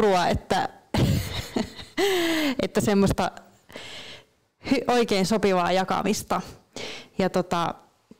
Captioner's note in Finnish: Naurahtaa